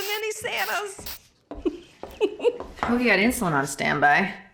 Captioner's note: giggling